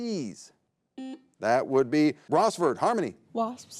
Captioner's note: button blips